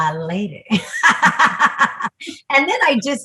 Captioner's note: laughs